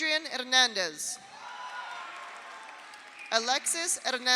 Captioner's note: audience cheers; audience applauds